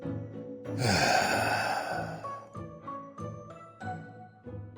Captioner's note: sighs